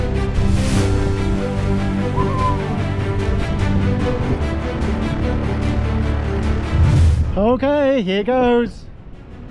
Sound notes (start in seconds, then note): 2.1 whistling; 4.2 uplifting music